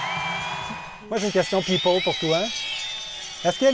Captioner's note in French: acclamations